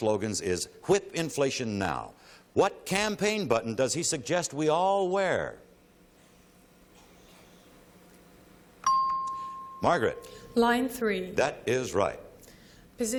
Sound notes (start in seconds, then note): 8.8 ping